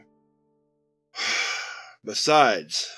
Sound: Dr. Taggart sighs; quietly, to himself

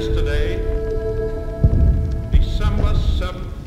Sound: bomb explosions

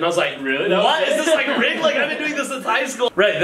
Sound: laughter

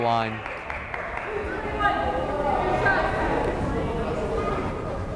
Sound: crowd chattering

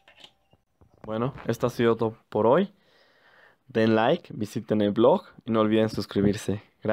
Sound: spanish

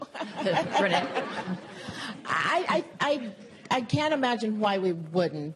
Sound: laugh

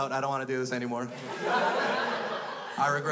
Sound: crowd laughs

